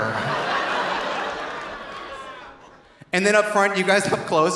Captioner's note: audience laughing; audience applauding